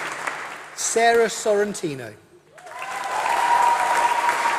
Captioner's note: applause